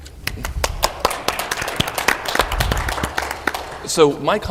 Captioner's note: applause